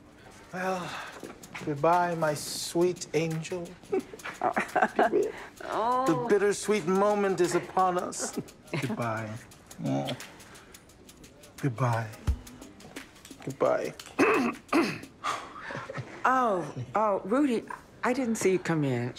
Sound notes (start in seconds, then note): 3.6 chuckles; 14.0 clears throat; 14.1 gasps